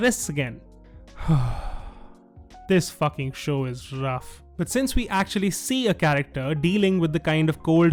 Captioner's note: sigh